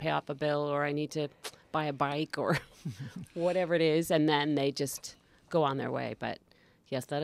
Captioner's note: laugh